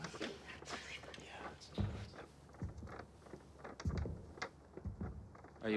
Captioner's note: paper fan rustling